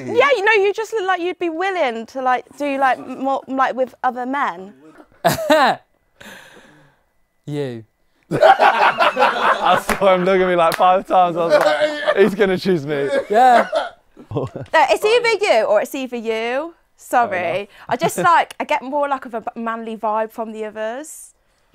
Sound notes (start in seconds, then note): 8.3 people laughing